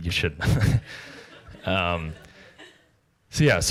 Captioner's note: laughter